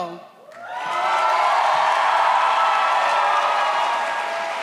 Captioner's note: audience cheers